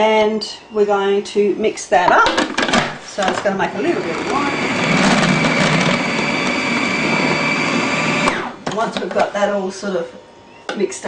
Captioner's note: blender whirring